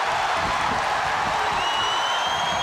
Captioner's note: crowd cheering